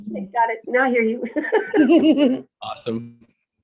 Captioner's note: both laugh